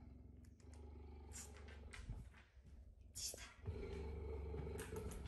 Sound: whispering

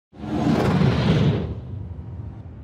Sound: whoosh

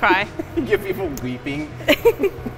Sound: chuckles; laughs

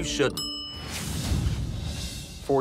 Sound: kitchen timer bell chimes

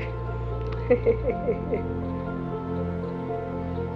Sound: chuckles

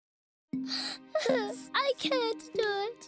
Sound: crying

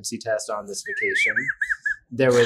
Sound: laughs

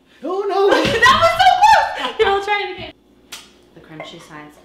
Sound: both screaming

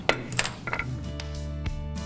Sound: gavel banging; upbeat acoustic guitar music

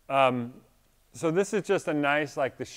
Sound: none

